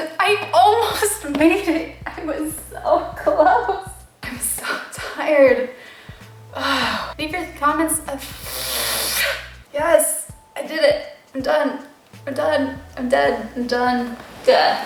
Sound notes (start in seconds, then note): 6.6 sigh; 8.1 exasperated mouth noises